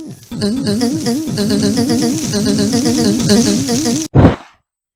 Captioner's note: "eugh" montage